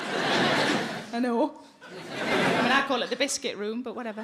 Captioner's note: audience laughing